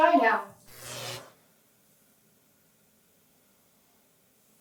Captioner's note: lights crackle